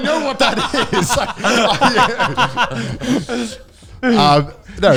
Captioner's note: laughs loudly